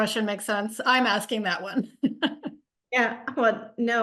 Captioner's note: chuckles